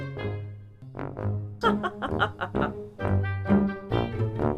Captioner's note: laughing